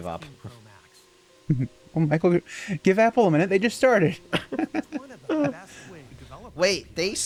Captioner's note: laugh in VR hell